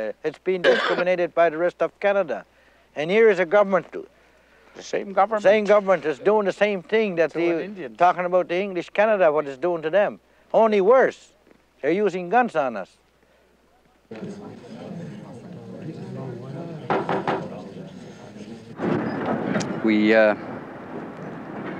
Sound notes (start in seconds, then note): 13.5 people chattering softly; 16.8 gavel pounding